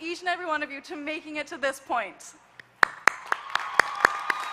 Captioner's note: applause